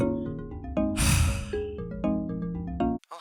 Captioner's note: sigh